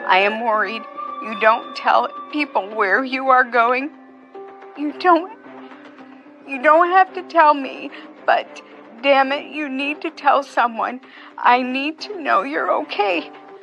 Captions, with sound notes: "You're not answering. I am worried. "You don't tell people where you are going. You don't--" [choking up] "You don't have to tell me, "but damn it, you need to tell someone. "I need to know you're okay.